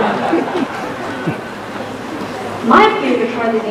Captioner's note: laughter